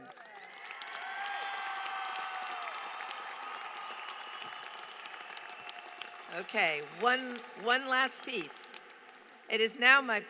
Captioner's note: applause